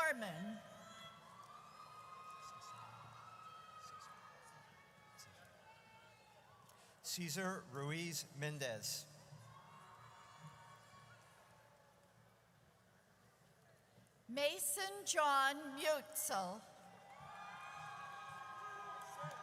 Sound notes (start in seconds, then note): 0.9 audience cheers; 9.4 audience cheers; 17.0 audience cheers